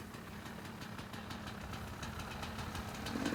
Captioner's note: bikes whirring